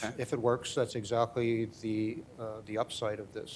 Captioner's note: none